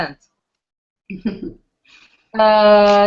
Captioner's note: laughs